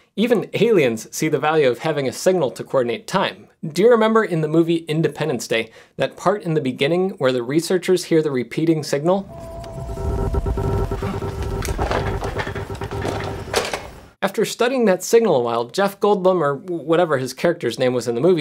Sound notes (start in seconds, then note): 9.2 alien time sound